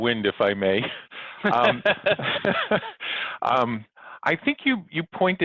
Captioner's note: both laugh